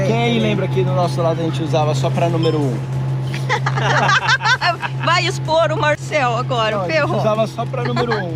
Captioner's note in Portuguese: risadas